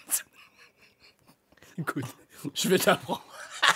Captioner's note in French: rires